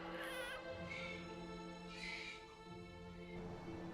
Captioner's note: baby crying; soft dramatic music